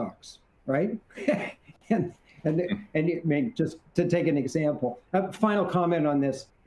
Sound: laughs

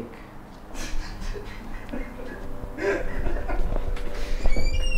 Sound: chuckles

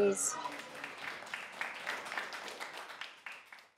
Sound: applause

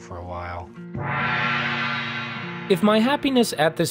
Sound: gong rings

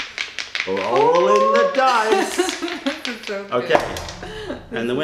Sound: laughter

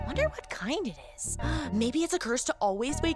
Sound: gasps

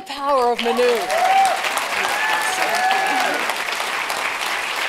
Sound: applause

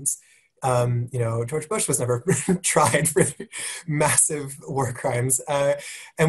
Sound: laugh

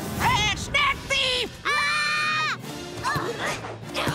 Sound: screaming

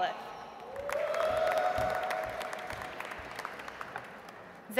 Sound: audience applauds

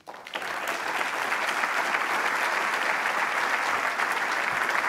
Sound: applause

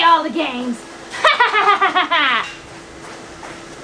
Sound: laughs

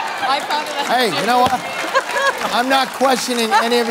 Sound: laughing

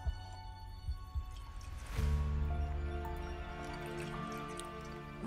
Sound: liquid trickling

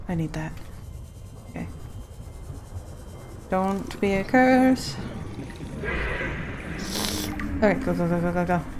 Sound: sing songy

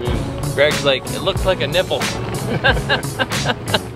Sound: laughs

